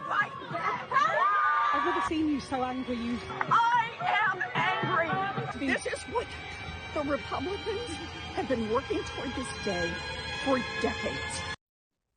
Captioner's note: screaming